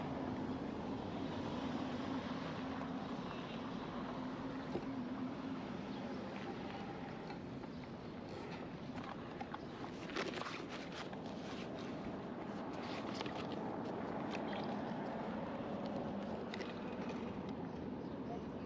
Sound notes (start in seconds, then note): 11.2 water splashing